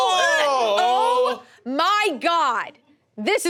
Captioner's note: group exclaims